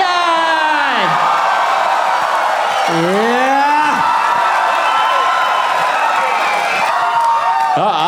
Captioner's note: crowd applauding